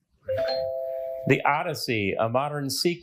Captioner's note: bell dings